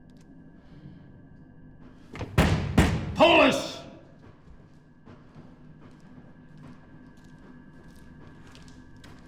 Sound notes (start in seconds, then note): 2.2 pounding